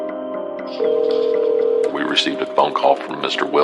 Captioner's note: phohone r riningingn